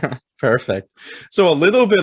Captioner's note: laughing